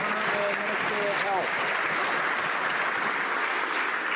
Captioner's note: some Applause